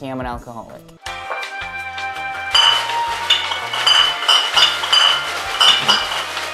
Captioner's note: bottles clacking together